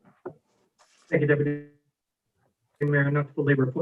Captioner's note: audio cuts out